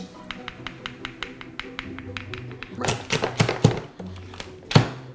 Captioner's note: tap tap tap; chop chop chop